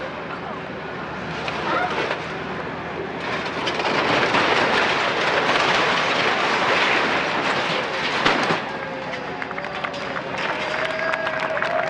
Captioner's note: cheers and applause